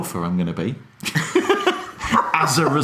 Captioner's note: laughing